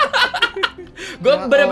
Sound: laugh

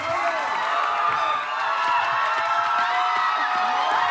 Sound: crowd cheering

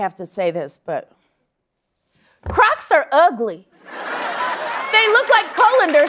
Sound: laughter

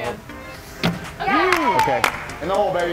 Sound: applause

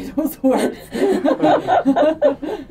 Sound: laughter

